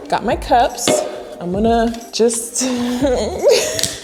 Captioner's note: laughing